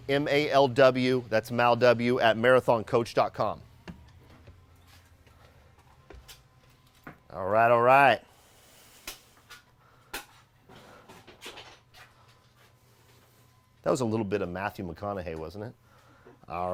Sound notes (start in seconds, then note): 4.1 stairs creaking